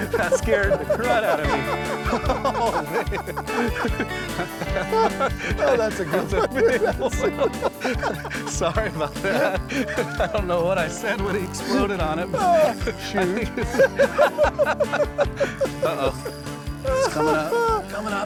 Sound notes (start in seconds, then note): 1.4 both laughing; 6.8 both laughing; 13.1 both laughing